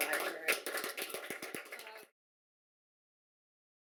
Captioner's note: clapping